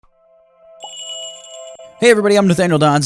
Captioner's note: magical jingle